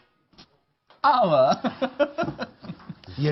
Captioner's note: laughs happily